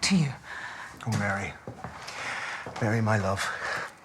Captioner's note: irish accent now